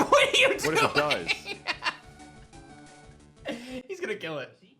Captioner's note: laughs